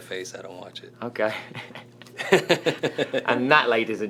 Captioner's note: laughs